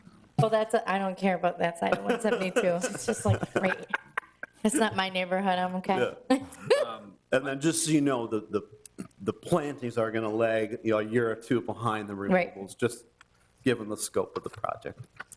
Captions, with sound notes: I don't care about that side of 172. It's just like right here. It's not my neighborhood, I'm okay. (laughing) And then just so you know, the plantings are gonna lag a year or two behind the removals, just given the scope of the project.